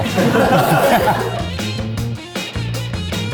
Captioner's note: crew laughing; upbeat music